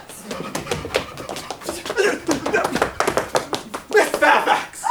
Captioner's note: Lane spluttering